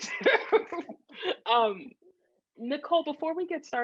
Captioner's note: laughs